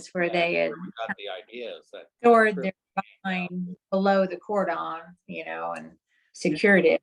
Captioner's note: audio cutting out